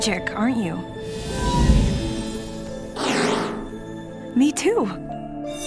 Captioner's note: Meelog huffs then growls